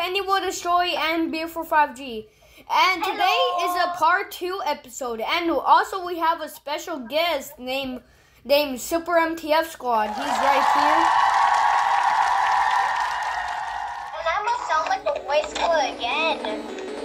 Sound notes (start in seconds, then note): 10.1 applause